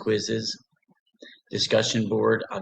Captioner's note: pause